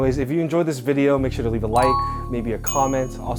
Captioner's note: light ping